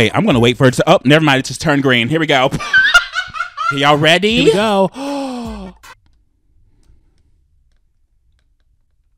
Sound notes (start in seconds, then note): 2.6 laughs; 4.9 gasps